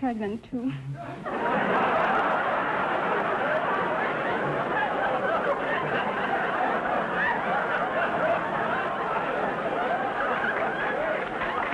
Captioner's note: audience laughter